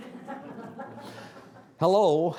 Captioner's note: audience laughing